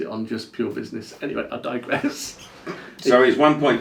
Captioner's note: laughs